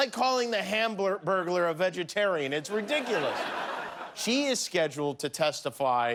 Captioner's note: laughter